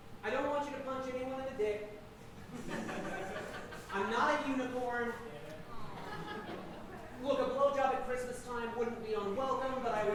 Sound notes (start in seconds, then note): 2.4 audience laughing; 5.5 audience awing